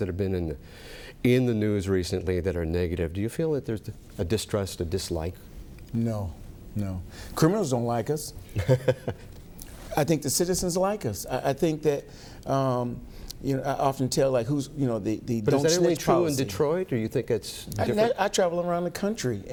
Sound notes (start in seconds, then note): 8.5 chuckles